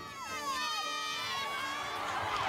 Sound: cheerleaders cheering; crowd cheers

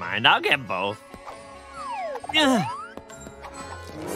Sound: grunting

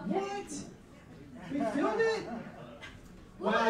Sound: laughing

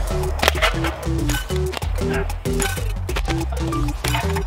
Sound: slingshot stops

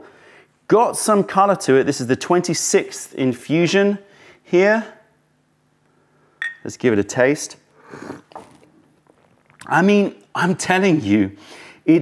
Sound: sips tea

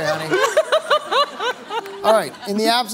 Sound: laughing

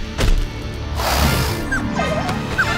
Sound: snorting; whining

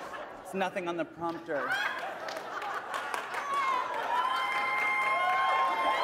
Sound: cheering

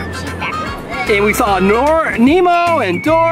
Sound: voiceover

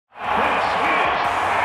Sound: crowd cheers

